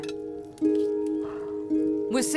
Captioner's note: Yawning